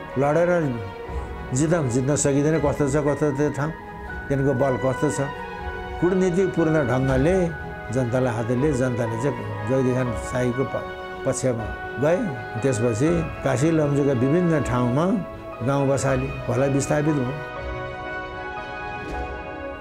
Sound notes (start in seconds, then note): none